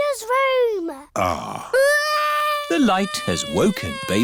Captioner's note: crying